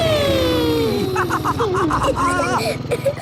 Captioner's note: laughs